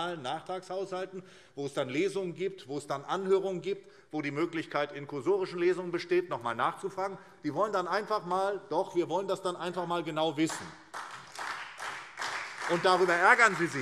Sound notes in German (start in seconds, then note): 10.4 Beifall SPD und Freie Demokraten